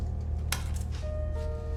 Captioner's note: click